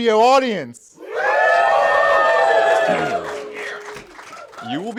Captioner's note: cheers